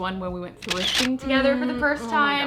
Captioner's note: camera flash sound